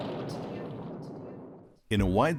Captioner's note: echo